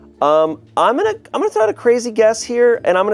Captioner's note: none